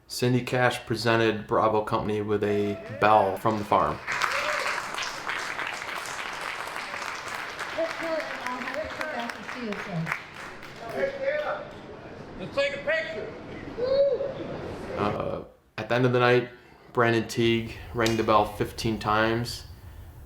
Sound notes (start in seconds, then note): 3.9 audience applauding